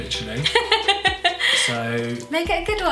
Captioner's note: laughs